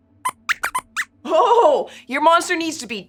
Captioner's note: squeaks squeaks